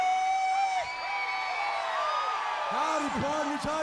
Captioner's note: audience cheering